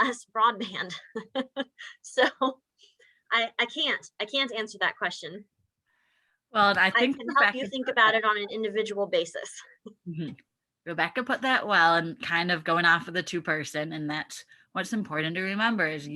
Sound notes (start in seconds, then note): 1.2 laughing